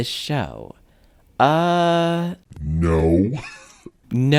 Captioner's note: laugh